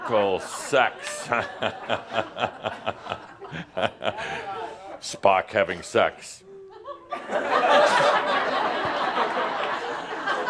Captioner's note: laughter; more laughter; Adamus chuckles